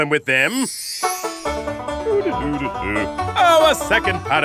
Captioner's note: humming